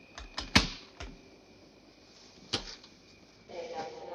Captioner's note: baggage clicking